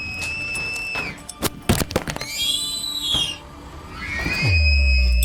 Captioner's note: shrieker sounds